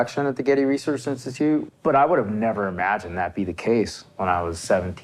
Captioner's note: none